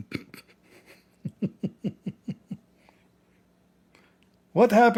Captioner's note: Ketawa